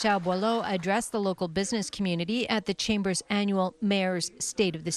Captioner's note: applause